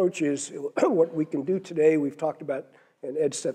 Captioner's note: cough